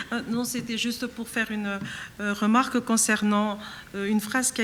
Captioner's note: speaking French